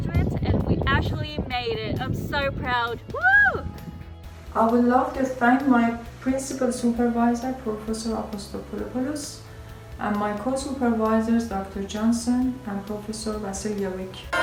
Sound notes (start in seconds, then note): 3.0 whooping